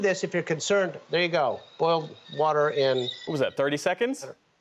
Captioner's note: teapot whistling